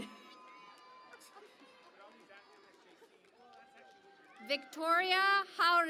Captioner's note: cheering and Applause